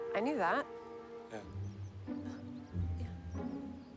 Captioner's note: scoffs